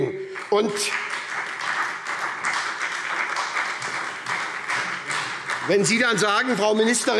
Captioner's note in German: Beifall SPD